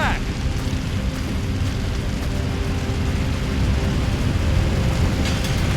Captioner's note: flames crackling